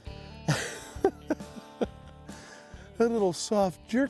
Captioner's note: chuckles